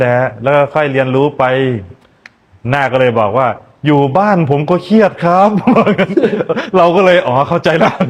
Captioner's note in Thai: เสียงหัวเราะ